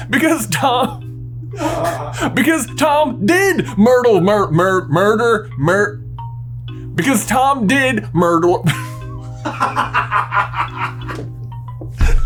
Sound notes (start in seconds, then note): 1.4 laughter; 9.2 laughter, including in background